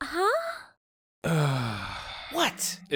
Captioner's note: Black sighs